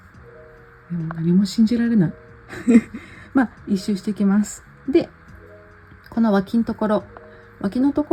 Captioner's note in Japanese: 笑い